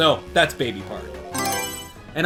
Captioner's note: Mario Selection Sound